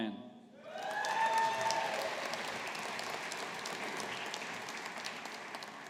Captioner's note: audience applauding